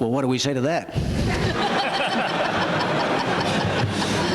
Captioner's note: laughter